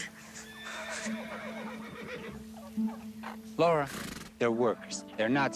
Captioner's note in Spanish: Relinchos